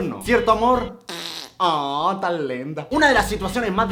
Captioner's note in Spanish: Sonido de pedo